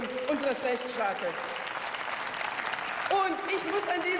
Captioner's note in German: Beifall